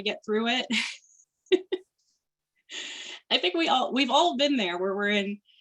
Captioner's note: chuckling